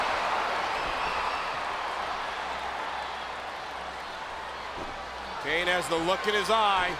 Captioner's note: crowd cheering